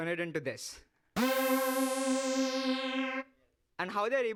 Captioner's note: loud beeping